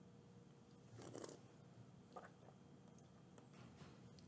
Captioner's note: slurps wine